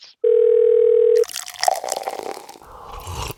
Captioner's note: phone rings; drink pours; sips